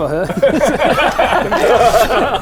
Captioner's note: immature giggles